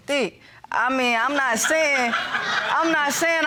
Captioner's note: audience laughing